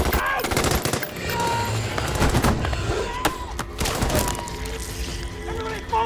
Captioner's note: gunshots blasting